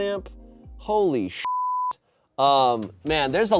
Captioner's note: beep